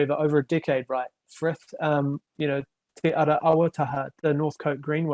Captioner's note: speaking foreign language